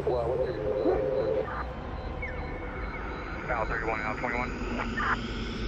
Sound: faint police radio chattering

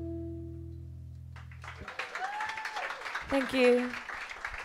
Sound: clapping, Cheering

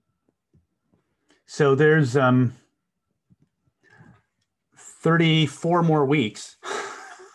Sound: laughing

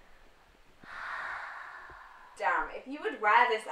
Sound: sighs

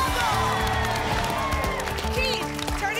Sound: applause and cheering

